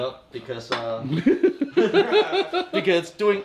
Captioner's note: laughing